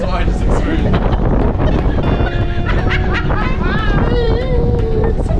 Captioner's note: laughing